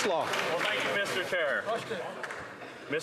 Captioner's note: some Applause